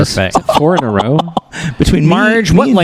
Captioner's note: continues to laugh